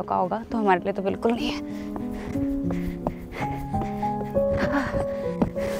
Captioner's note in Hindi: हांफते हुए